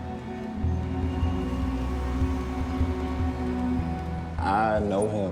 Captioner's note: traffic rumbling